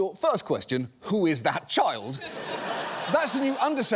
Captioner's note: audience laughing